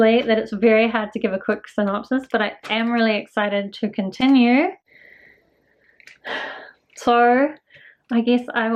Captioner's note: sigh